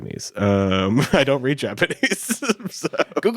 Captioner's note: chuckles